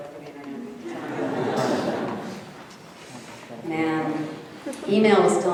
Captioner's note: audience laughing